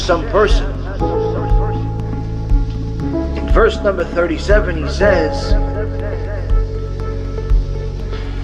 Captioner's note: hebrew